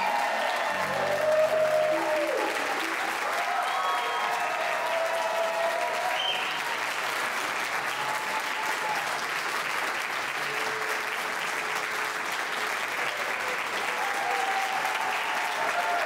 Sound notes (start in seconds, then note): 2.9 audience applause continues; 2.9 playful music continues